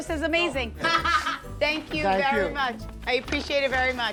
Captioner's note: laughs